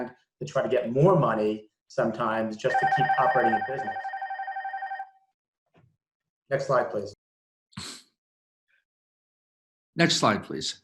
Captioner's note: phone ringing